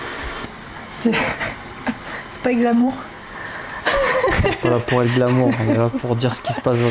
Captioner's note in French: rires